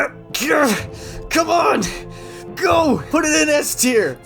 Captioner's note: straining greatly